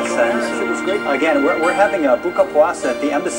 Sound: non-english

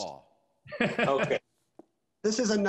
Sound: laughing

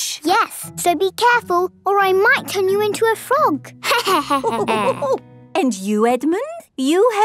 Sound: laughter

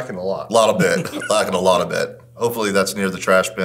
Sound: laughing

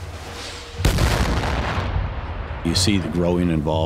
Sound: explosions

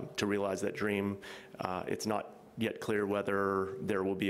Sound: none

